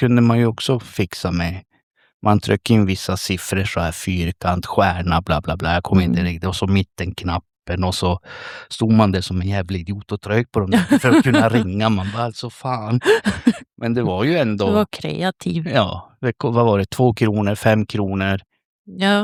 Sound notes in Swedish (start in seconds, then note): 10.7 skratt